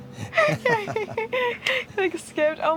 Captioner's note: laughing